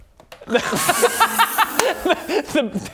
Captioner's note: unkind but justified laughter